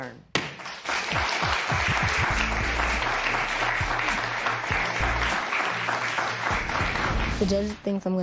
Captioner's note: applause